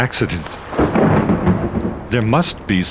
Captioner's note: thunder claps